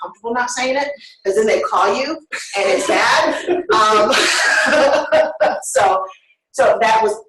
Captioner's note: laughter